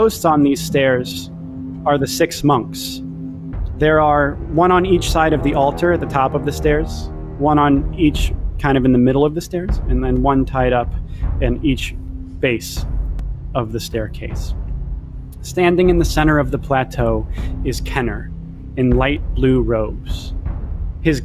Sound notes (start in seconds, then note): none